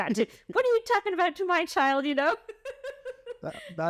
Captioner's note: laughter